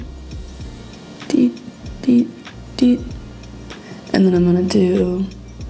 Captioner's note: tiny beeps